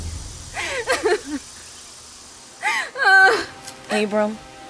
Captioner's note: Martha sobbing